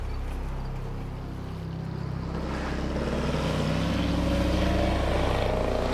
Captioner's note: motor revving